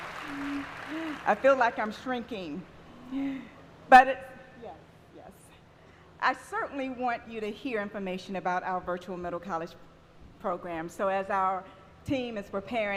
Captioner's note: applause